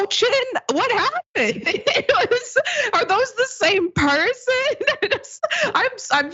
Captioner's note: laugh